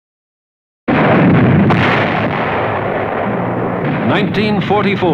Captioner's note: cannonfire